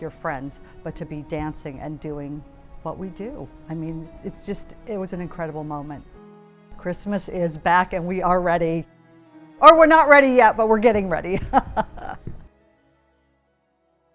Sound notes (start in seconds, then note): 11.3 chuckles